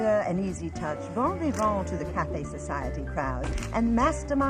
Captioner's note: speaks French